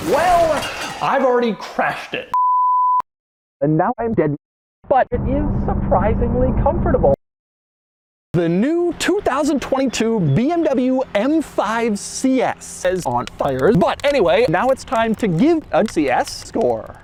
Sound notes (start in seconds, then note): 3.5 muffled from inside carsket